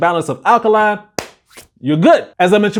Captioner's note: hand clap